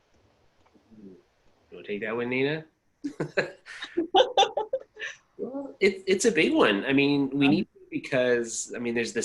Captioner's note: laughter